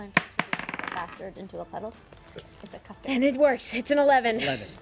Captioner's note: rolls dice